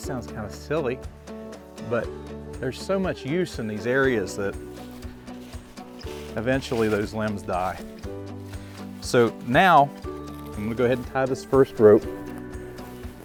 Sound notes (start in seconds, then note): 5.6 leaves crunching; 8.0 footsteps shuffling